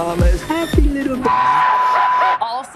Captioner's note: screen whirring; maniacal laughing